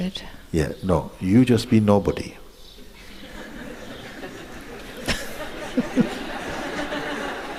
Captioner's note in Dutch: gelach